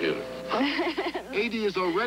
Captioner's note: boy giggles